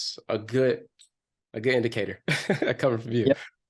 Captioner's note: chuckles